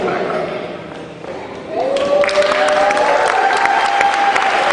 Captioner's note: cheering